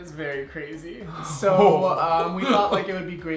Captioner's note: laughs